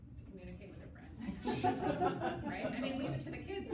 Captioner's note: laughter